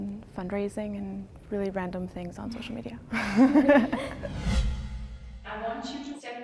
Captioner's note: laughs